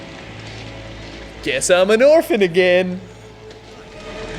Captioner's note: mocking